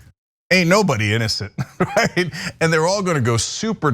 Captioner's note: laugh